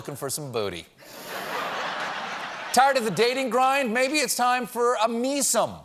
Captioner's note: laughter